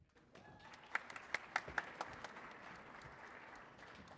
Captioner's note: audience applauding